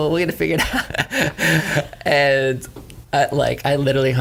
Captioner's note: laughs